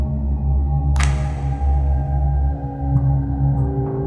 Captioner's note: clapping sound